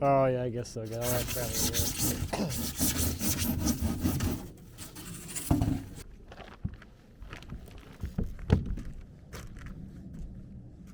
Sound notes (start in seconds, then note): 0.8 foam scraping